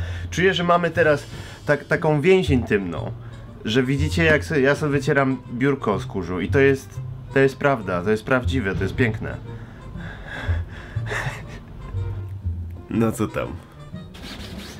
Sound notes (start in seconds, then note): 11.1 laughter